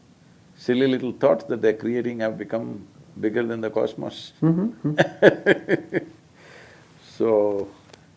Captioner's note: laughs